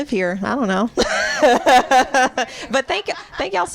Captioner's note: laughter